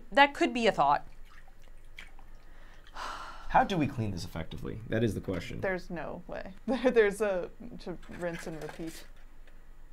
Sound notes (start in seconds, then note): 2.9 sighing